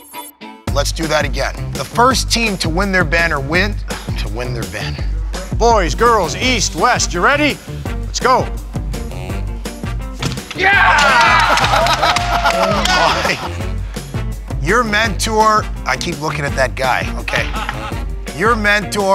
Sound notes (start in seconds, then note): 4.4 sigh; 10.8 laughing